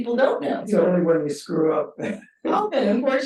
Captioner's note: chuckles